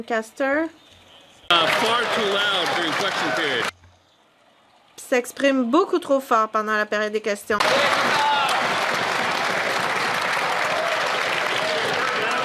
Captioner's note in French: voix de l'interprète